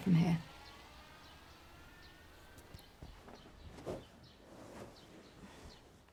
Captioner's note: car engine starts up outside and reverses